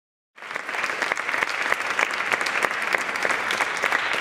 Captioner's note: applause